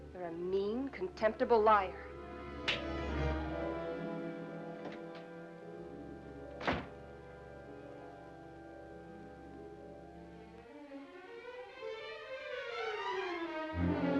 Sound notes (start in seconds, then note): 1.9 dramatic music; 2.7 slap; 4.8 door opens; 6.5 door closes; 10.6 suspenseful music